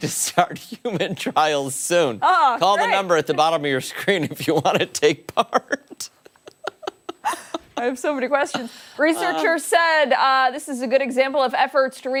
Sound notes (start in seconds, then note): 1.7 laughter